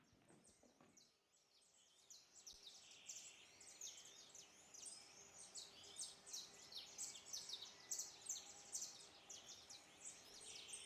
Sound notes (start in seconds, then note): 7.2 birds singing